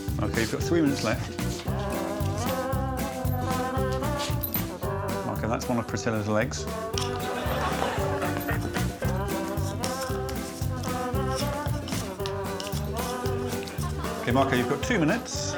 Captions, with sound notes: Okay, you've got three minutes left. [upbeat music] Marco, that's one of Priscilla's legs. [audience laughing] [Marco's claws scratching on cardboard] [upbeat music]